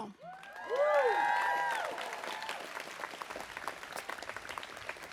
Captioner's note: audience cheers and applauds